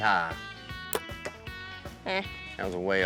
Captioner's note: arrow shot